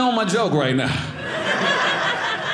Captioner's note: audience laughing